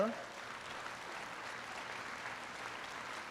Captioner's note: applause